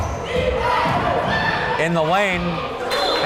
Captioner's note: crowd chanting defense